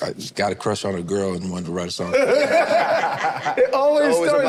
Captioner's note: group laughs